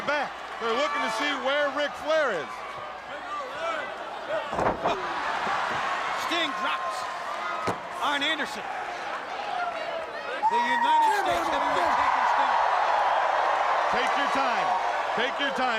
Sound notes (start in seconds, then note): 5.2 crowd chatter; 12.7 crowd cheering